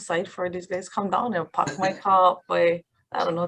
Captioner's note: chuckles